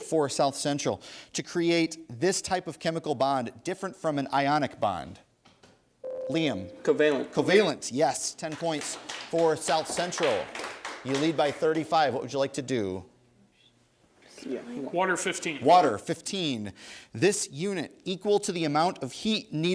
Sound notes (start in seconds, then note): 6.0 ding; 10.9 applause